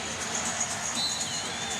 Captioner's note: whistle blows